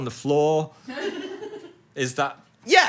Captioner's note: crew member laughs